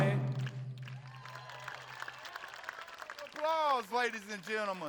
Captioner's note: audience applauding